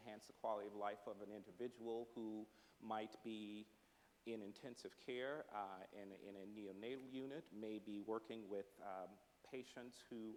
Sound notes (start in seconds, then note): none